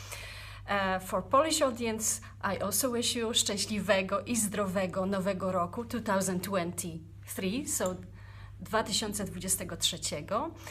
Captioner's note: in Polish